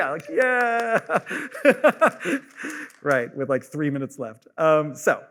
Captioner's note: laughs; claps